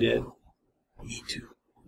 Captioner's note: whispers